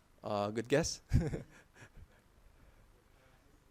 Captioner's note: laughing